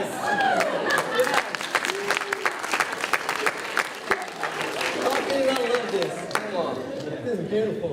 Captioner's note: applause